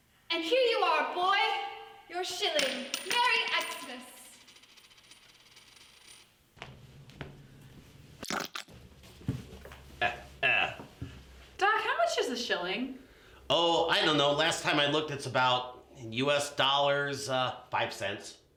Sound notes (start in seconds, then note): 8.2 splat